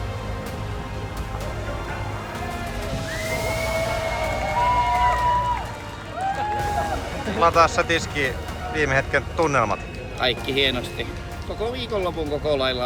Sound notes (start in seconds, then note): 5.2 cheers